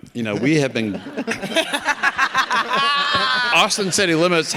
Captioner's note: all laughing